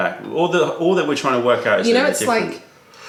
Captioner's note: sips tea